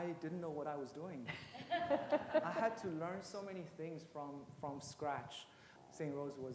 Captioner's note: laughter